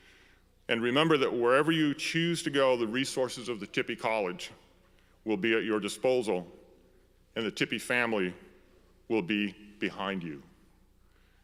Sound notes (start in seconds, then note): none